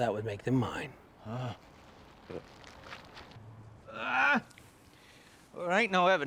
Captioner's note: gagging